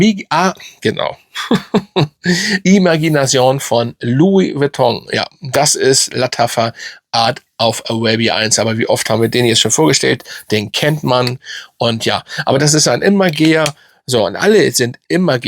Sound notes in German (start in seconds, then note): 1.3 gelächter